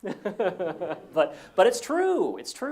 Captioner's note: laugh